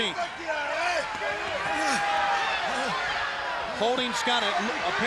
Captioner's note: crowd cheering